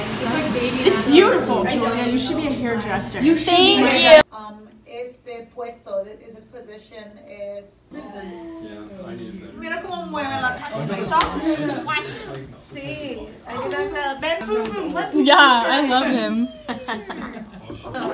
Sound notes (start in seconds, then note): 4.3 teacher speaking Spanish